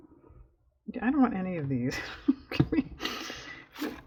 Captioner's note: laughs